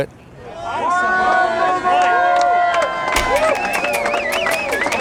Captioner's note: yelling and cheering